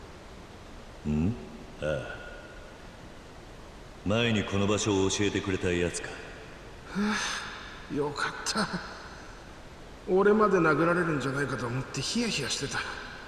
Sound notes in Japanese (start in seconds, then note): 6.8 ため息; 6.9 息をのむ音